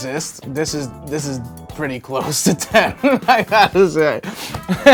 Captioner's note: laughs